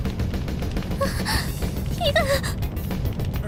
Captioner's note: gasp